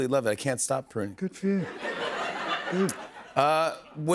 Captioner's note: laughter